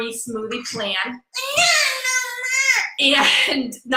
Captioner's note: baby babbles